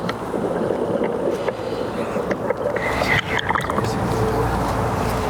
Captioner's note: water bubbling loudly